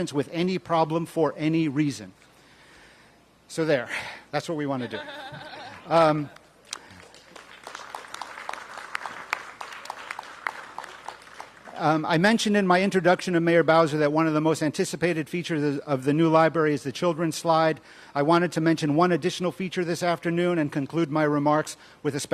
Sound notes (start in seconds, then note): 9.3 applause